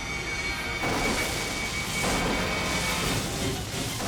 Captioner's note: explosion blasts; intense orchestral music